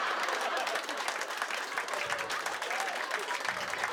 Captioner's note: laughter; applause